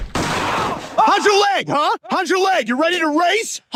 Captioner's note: gunshot